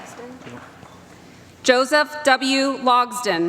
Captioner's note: applause